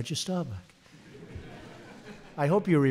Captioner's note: laughter